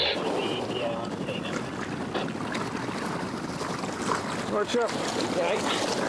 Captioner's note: water sloshing